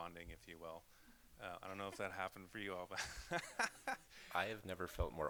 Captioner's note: laughs